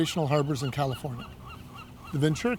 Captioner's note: birds cawing